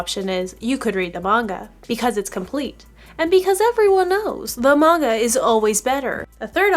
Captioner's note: kinda sarcastic